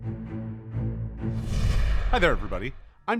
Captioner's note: flames bursting